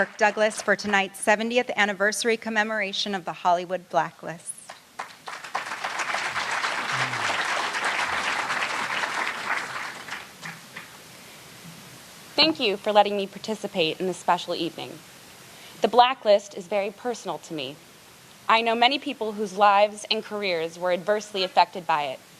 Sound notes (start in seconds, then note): 9.1 applause